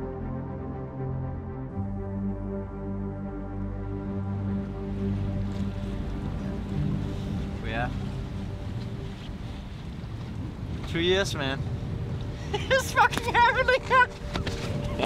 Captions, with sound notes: [water gushing] Two years, man. [laughs] It's fucking happening.